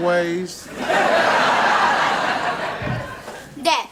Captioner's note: audience laughs